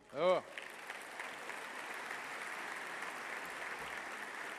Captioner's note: applause